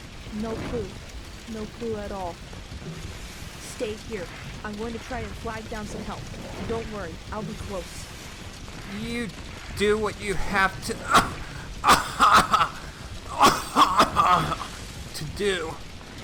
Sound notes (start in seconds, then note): 10.3 spasm of coughing